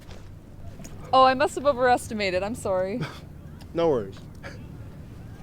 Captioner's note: laughs